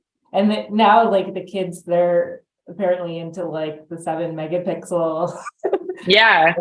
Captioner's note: laughs